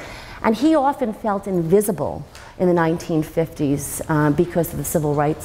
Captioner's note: none